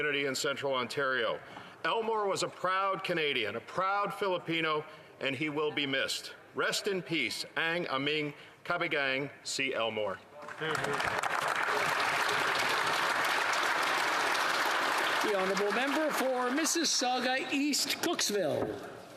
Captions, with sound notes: SERIESINSINCERE CONDOLENCES GO E TO HIS FAMILY AND THE COMMUNITY. HE WAS A PROUD CANADIAN, A PROUD FILIPINO, AND HE WILL BE MISSED. REST IN PEACE. [Speaking Alternate Language] [ Applause ]